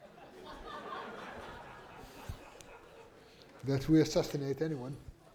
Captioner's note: laughter